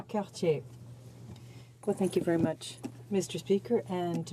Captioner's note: speaking French